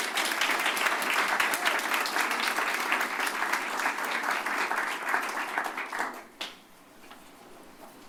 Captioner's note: applause